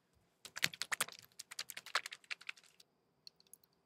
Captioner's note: splash splash